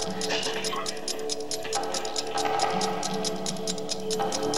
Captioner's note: door opening; ticking